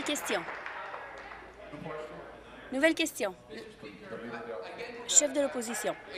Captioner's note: applause